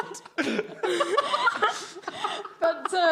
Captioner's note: all laughing